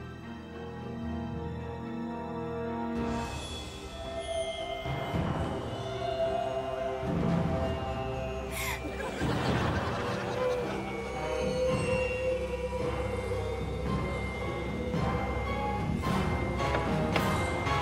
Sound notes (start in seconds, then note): 8.5 gasping